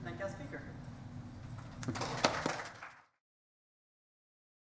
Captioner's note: audience applauding